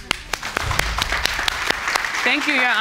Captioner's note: applauding